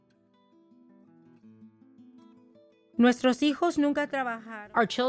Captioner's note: speaks Spanish